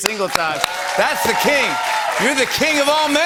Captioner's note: cheers and applause